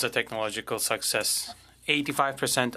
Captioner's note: speaking French